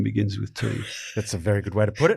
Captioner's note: chuckles